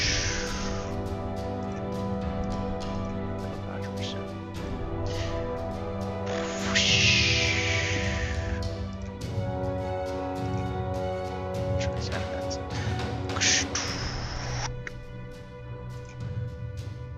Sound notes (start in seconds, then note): 5.0 inhales